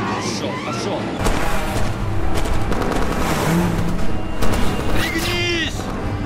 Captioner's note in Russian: слышны выстрелы, звук дрифтующих машин, рев мотора